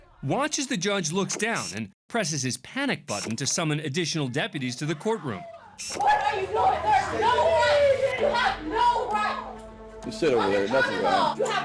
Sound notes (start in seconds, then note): 5.0 indistinct chatter, screaming